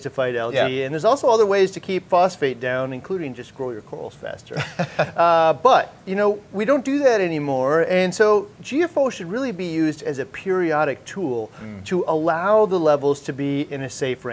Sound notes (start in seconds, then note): 4.5 laughing